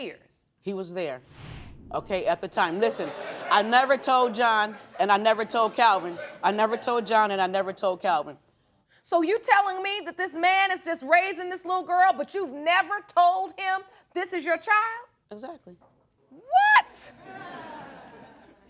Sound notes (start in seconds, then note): 2.9 audience murmuring; 17.2 audience chuckles